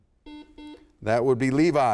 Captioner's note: buzzer sounds